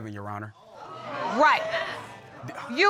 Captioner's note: audience exclaims